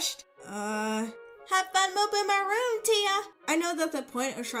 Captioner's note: bad Southern accent